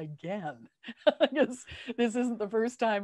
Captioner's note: laughter